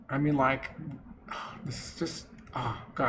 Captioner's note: gasp